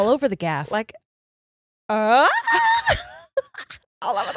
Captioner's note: screams quietly